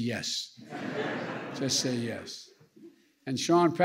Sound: laughter

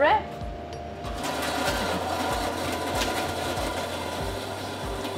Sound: blender machine whirring

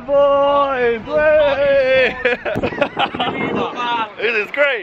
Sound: laughing

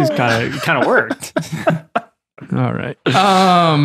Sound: friars chuckle

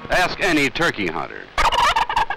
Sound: turkey gobbling

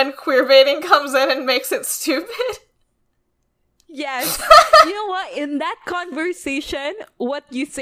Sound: laughs

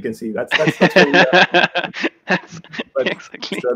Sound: laughs

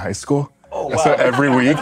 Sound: laughter

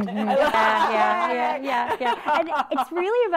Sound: ladies laughing

